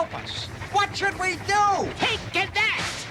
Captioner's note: yelling